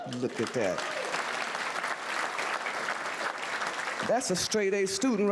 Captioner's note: audience whooo's and applause